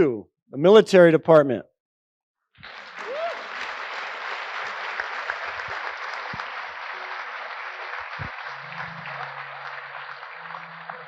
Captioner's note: applause